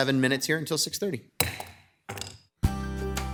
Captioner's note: gavel banging; bright music